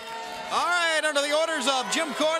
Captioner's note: bell ringing; crowd cheering